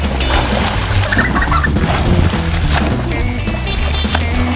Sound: laughing

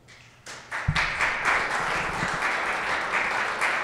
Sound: applause

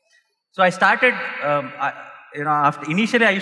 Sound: none

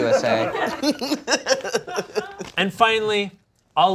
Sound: laughing

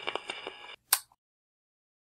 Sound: record player creaking; light switch clicks

